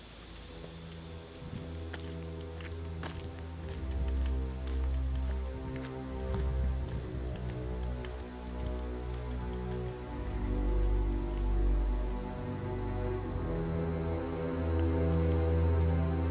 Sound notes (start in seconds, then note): 0.1 footsteps